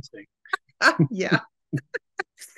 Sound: laughing

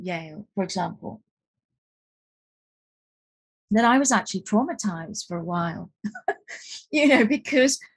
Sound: chuckles

